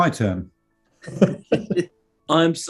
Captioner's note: chuckling